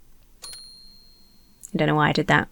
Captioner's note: bell dings